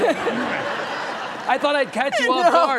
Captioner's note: audience laughing